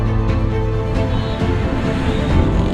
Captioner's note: horn honking